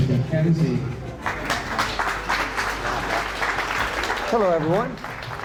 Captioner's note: audience clapping